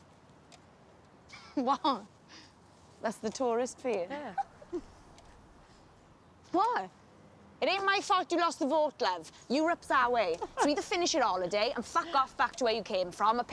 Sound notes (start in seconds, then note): 1.3 laughs; 4.1 lucy laughs